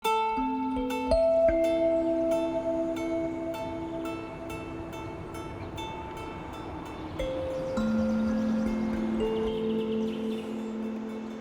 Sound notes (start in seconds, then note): 0.0 gentle music; 7.8 birds twittering